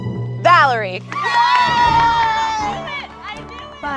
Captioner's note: all cheer